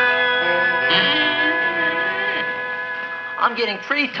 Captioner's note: Audrey Jr. creaking